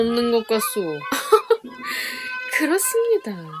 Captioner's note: laughs